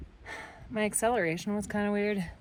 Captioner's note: sighs